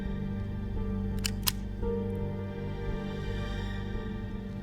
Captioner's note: gun cocking